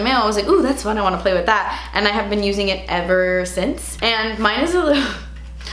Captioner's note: she chuckles